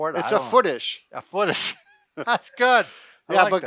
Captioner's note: laughing